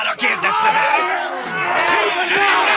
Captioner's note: all clamoring